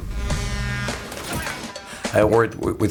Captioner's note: truck honking